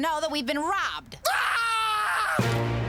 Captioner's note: screaming